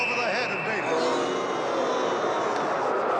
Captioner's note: crowd booing